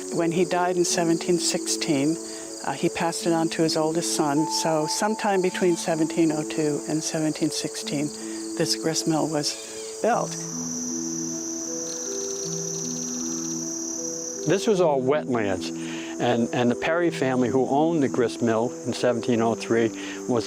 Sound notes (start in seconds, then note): 10.8 birds chirping